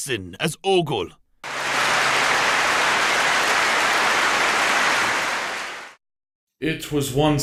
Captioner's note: clapping